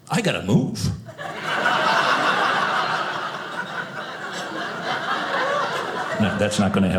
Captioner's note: audience laughing